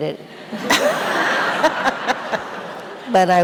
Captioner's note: audience laughing; laughs